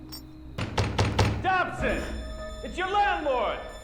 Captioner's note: knocking